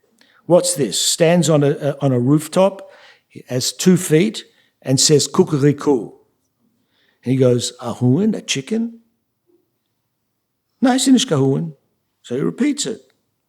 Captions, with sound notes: What's this, stands on a rooftop, has two feet, and says [YIDDISH]? And he goes, [SPEAKING YIDDISH]. So he repeats it.